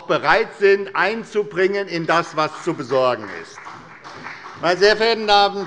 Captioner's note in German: Beifall bei der SPD und der FDP